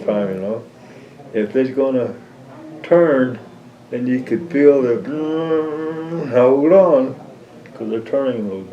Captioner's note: humming